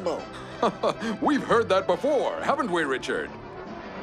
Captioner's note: laughs